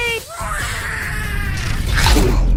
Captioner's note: snarling